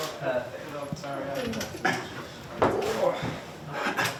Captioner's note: band chattering